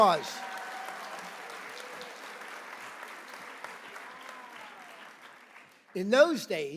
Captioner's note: applause